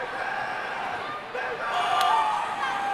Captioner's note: crowd members shouting